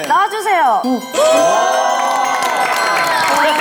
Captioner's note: cheers and applause for the successful fan